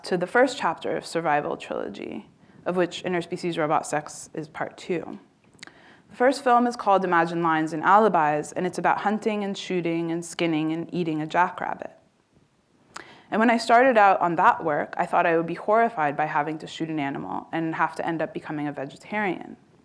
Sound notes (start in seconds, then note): none